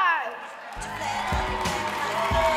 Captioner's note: audience clapping and cheering